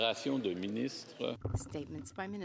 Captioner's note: speaking French